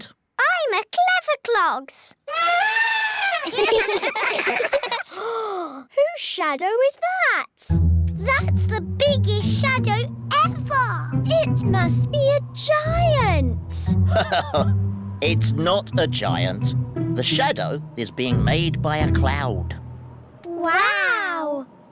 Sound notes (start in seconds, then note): 2.3 trumpets; 3.4 all giggle; 5.0 gasps; 14.0 laughs